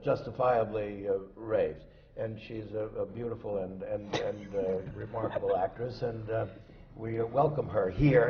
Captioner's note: laughs